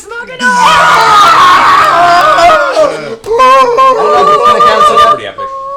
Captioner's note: cheering